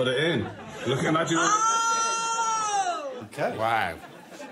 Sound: exclaims

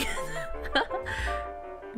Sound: laughs

